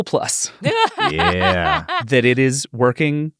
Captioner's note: cackling